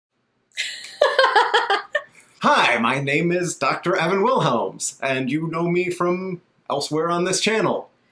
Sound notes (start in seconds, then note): 0.6 laughs